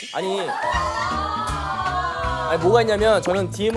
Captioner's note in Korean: 쏟아지는 야유 합창